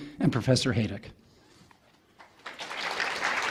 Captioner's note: audience applause